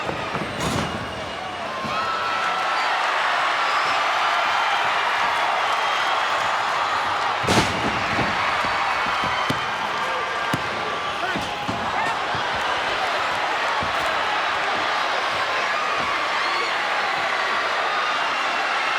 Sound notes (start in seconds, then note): 1.9 crowd cheering; 7.4 body thuds; 9.4 referee smacking; 12.5 crowd cheering